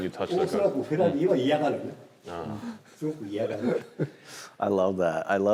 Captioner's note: speaking in Japanese